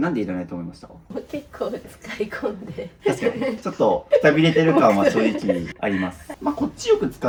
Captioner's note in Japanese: 笑い